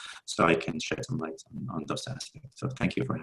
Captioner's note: murmurs